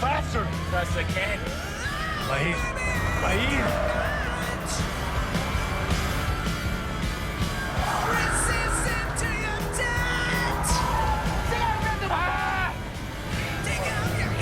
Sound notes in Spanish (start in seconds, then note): 8.0 Ruido de los vehículos; 12.1 Grito